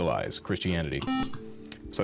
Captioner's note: beep